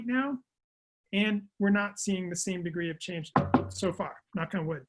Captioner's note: knocks